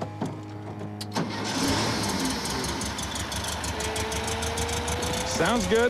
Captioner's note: engine running